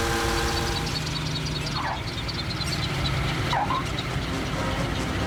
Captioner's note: propellers Squeaking; tyres Screeching